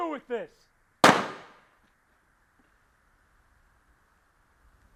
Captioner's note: gunshot popping